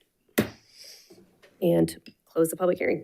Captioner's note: gavel bangs